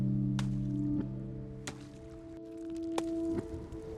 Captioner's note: ice cracking